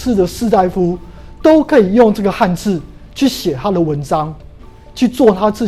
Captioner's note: chinese words